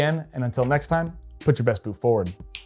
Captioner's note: fingers snapping